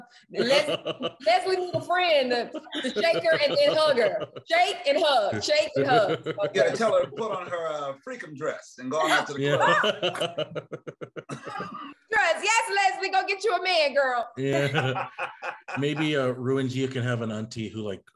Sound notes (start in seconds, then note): 14.4 Colman laughs